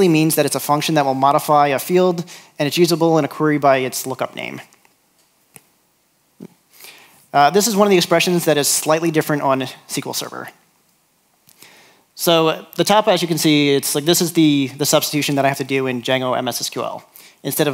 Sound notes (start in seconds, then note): none